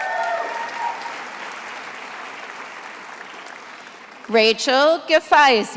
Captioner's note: attendees applauding